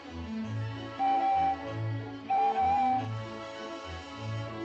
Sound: train whistle blows

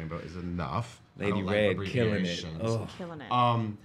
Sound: mumbles

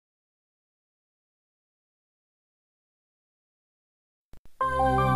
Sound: silence

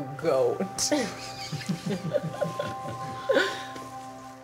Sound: both laugh

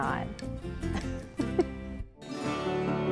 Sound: laughs

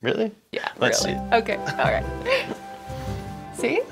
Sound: happy marriage noises

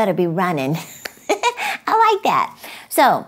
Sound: laughing

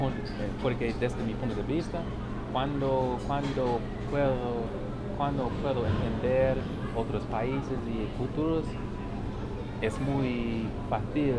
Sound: spanish

